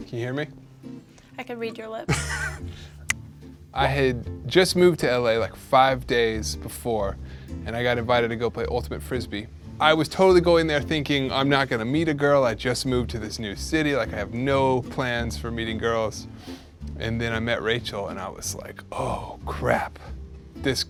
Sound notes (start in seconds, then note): 2.1 laughing; 3.0 fingers snapping